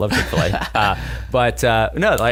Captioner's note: laughter